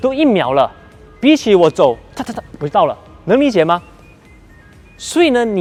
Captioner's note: scuttles